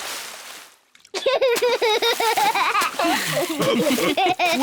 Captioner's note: laughs; all laugh